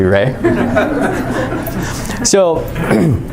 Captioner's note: chuckling